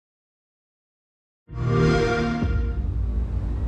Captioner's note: xbox sound